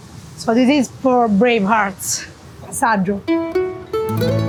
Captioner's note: speaking in foreign language; gentle music